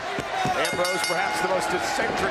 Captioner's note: bell ringing